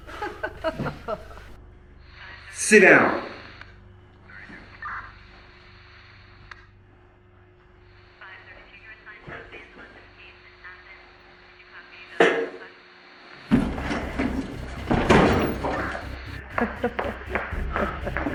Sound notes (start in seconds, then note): 0.0 Felina laughs; 6.2 police radio; 15.2 Felina’s still laughing